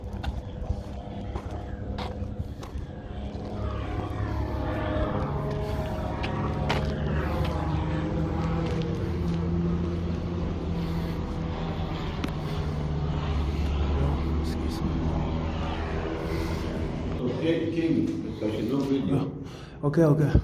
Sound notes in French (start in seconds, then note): 6.3 gémissement